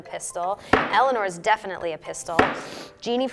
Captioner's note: sniffs